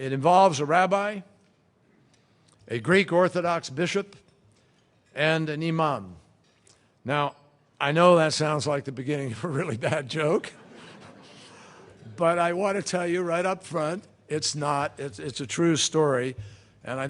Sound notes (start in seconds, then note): 10.2 laughter